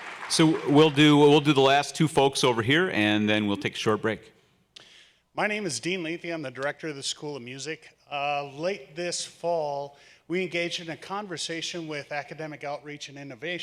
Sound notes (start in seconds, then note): 0.0 applause